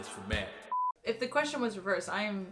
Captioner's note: beep